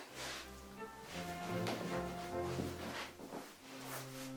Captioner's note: fabric rustling